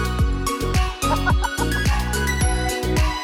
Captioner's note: laughter